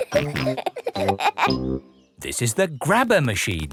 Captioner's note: peppa and george laughing